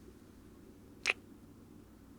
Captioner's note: kiss